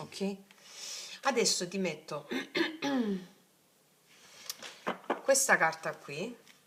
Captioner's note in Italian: schiarire la voce